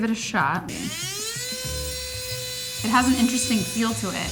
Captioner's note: tool buzzing